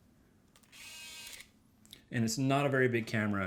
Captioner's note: lens opening